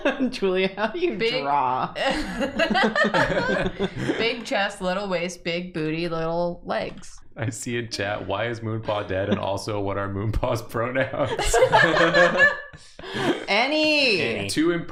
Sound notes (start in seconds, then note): 2.0 laughter